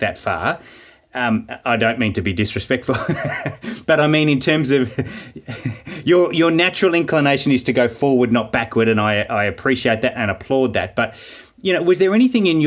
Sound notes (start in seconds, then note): 2.8 laughing